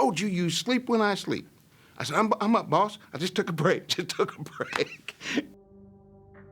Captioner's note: laughing